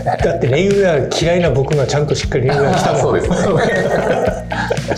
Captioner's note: laughs